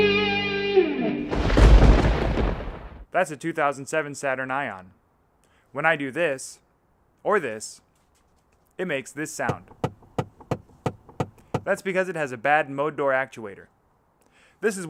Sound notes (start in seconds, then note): 9.5 clunking